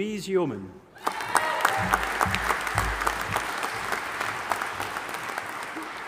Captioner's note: audience applauding and cheering